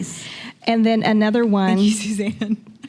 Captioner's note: chuckling; starts laughing